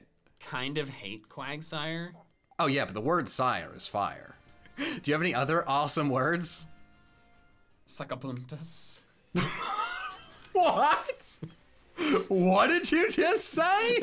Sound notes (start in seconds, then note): 9.4 laughs